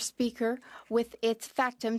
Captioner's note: speaking French